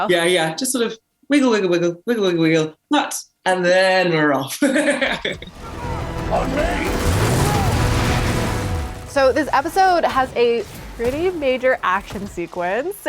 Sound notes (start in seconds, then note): 7.1 dramatic music; 7.1 engine revs